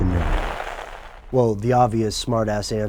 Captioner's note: static